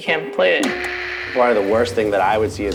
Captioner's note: static